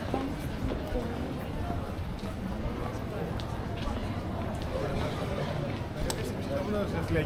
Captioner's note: people chattering